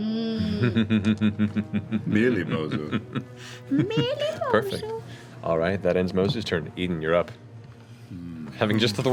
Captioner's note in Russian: злобно смеётся